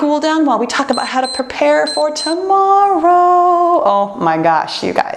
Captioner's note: timer beeps